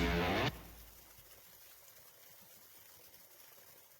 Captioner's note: water trickling